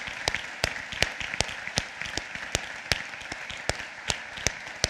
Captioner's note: applause